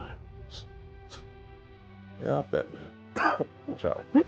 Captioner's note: scoffs; coughing